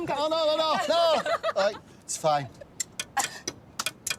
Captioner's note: laughs